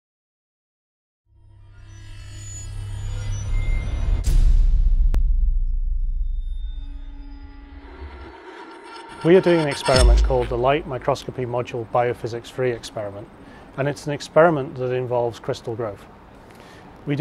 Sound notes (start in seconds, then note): 0.8 sound Effects